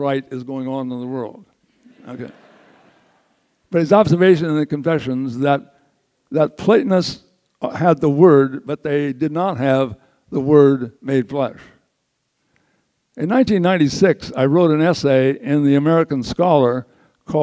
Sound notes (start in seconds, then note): 1.8 audience laughs